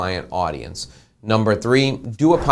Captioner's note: whooshing